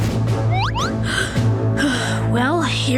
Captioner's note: sighing